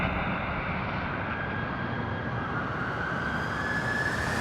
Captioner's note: distant sirens blaring